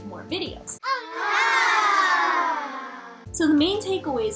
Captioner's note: children ooh-ing and aah-ing